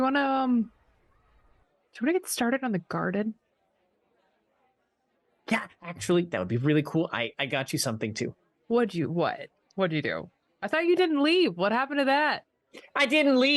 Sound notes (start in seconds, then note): none